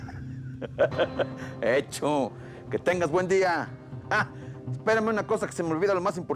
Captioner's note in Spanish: risas